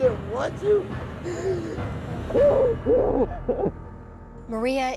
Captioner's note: sobs